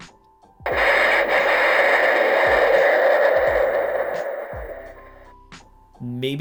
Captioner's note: explosion sound